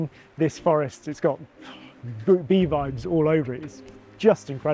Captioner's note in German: atmet aus